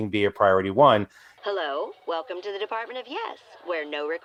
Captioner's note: voiceover